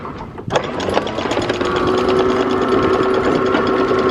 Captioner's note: chain rattles